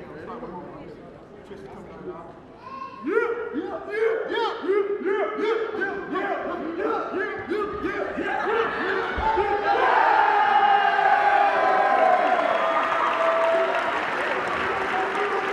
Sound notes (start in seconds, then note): 3.0 cheering; 3.0 players chanting